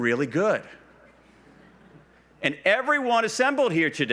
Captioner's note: quiet laughs